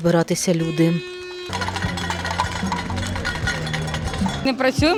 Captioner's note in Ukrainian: звуки свистків, брязкит металевого посуду